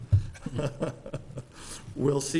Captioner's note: laughing